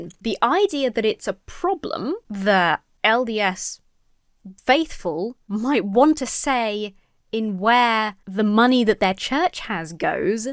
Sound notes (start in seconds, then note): none